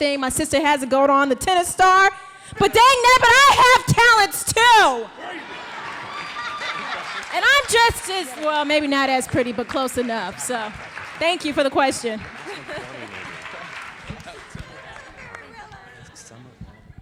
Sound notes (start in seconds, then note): 5.3 audience applauds; 5.3 audience cheering; 13.1 indistinct conversation